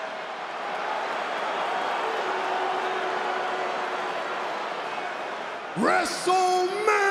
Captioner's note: applause